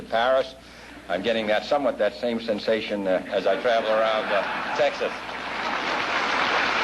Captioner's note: laughter, applause